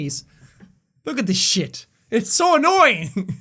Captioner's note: laughs